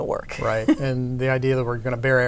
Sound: laughs

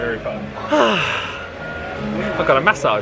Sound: sighs

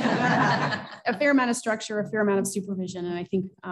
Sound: laughter

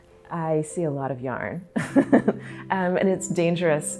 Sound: laughing

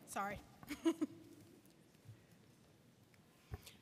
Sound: laughing

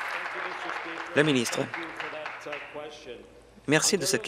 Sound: applause

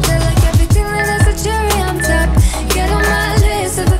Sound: timer beeps

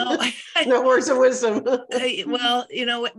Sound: laughs

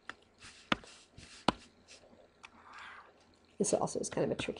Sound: pen tapping

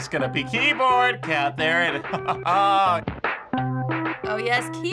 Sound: rhythmic music; laughs; keyboard music

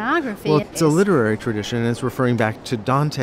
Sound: voiceover

